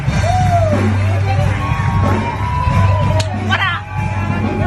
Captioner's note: cheering